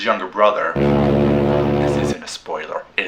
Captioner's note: foghorn